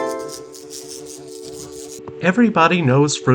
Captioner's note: flies buzzing